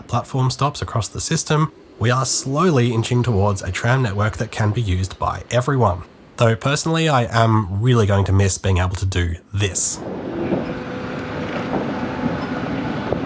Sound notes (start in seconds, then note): 10.6 Z class night noises